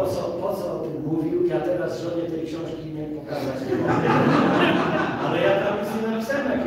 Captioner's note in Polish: Śmiech z sali